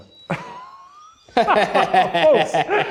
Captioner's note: laughing